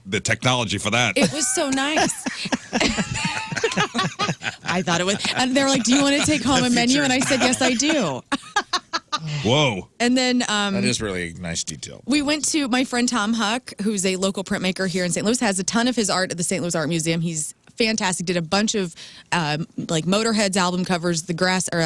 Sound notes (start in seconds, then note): 4.3 laughing